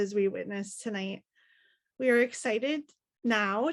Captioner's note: none